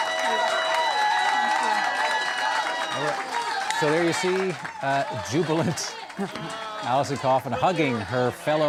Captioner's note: cheers and Applause